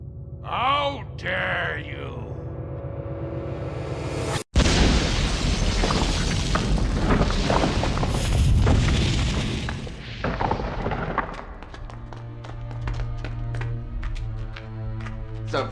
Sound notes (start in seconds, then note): 4.5 kaboom